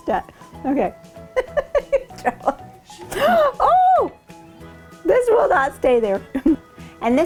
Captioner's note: laughing